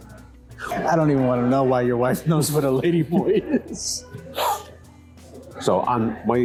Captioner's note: both laugh